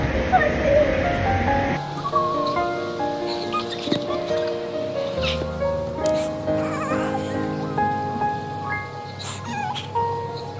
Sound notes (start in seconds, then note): 0.9 crying😭